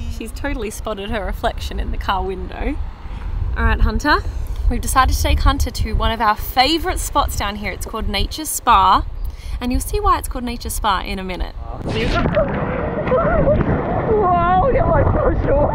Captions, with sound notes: She's totally spotted her reflection in the car window. Alright, Hunter, we've decided to take Hunter to one of our favorite spots down here. It's called Nature SPA. And you'll see why it's called Nature SPA in a minute. (underwater sounds)